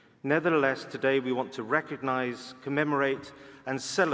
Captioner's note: none